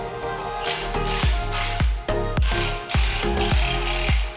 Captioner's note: tool whirring